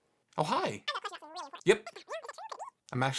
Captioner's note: cartoon voice